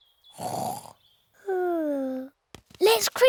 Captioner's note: snores